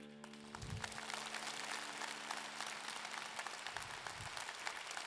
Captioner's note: upbeat music continues; audience clapping